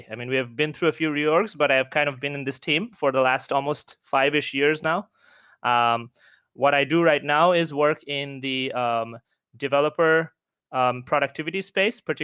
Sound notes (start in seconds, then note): none